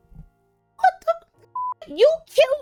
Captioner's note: beep